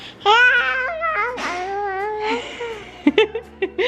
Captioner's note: babbling